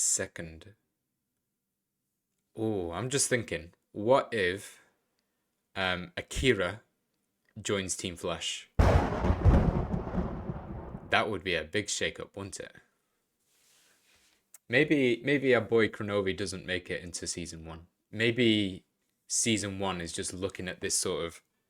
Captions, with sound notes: Second I'm just thinking What if Akira Joins Team Flash? [Thunder] That would be a big shake-up, wouldn't it? Maybe Maybe our boy Kronovi doesn't make it into season 1 Maybe season 1 is just looking at this sort of